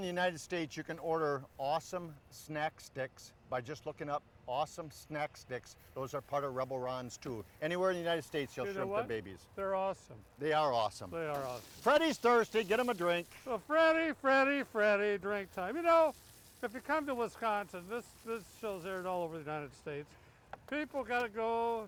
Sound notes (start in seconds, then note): 11.8 grill sizzling